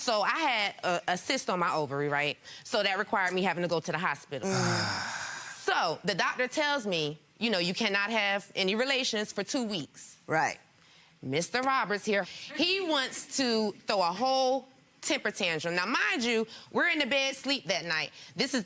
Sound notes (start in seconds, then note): 4.4 sighing